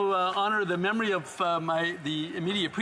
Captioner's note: some Applause